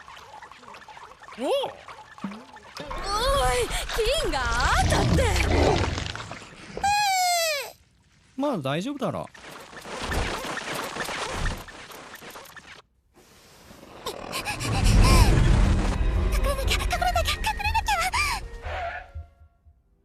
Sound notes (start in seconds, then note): 4.4 growls; 9.4 Gloink squeaking rapidly; 14.0 panting; 14.1 Kaufmo growling; 18.3 gasps